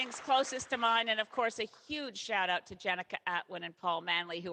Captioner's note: applause